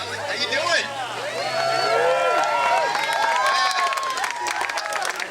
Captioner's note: crowd cheering